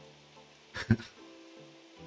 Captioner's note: laughs